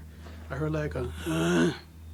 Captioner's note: grunts